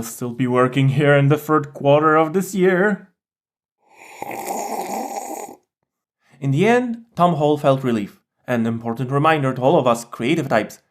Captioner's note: sips loudly